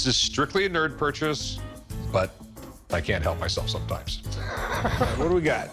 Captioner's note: laughs